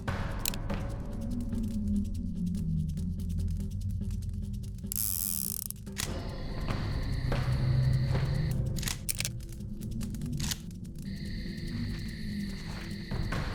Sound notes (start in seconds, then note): 4.8 gun spins; 4.9 gun clicking